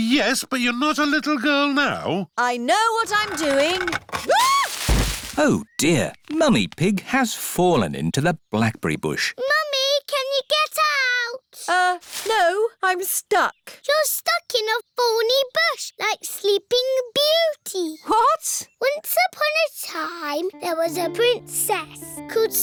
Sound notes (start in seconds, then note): 3.1 thuds; 4.5 screams